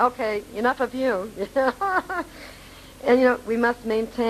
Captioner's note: laughing